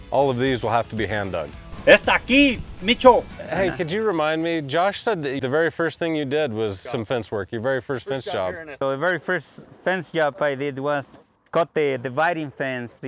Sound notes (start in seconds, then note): 2.0 speaks in foreign language